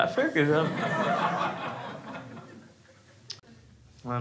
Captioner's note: crowd laughs